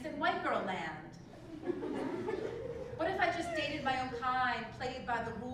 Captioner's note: laugh